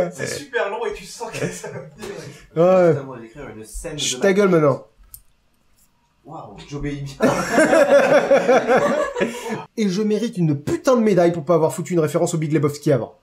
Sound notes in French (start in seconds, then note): 0.0 Rire; 7.2 rires